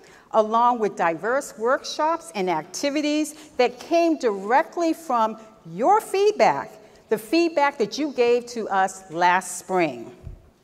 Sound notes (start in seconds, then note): none